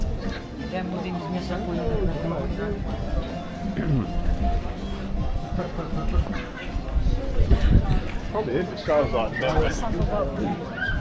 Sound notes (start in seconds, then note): 5.5 laughing